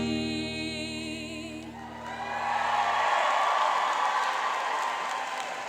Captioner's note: cheering and applauding